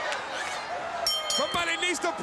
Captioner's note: bell ringing